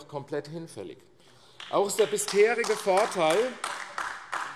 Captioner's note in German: Beifall AfD